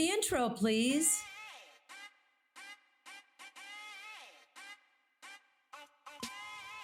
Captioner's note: funky music; stuttered vocalizing